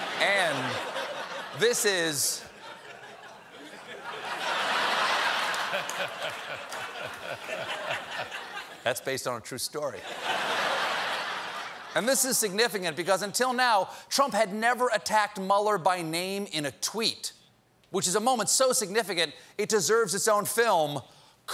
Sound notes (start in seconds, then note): 3.9 laughter